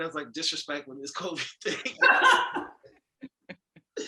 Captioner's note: laughing